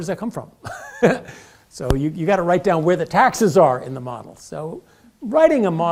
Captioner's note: laugh